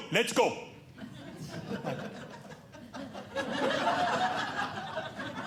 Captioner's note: audience laughing